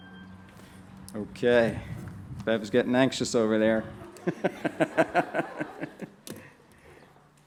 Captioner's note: laughs